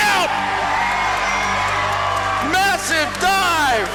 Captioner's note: crowd roars